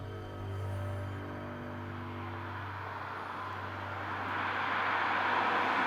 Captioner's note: car engine droning